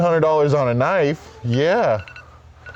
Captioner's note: timer buzzes